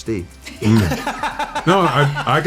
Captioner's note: laughter